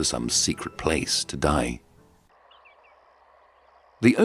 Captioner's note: birds chirping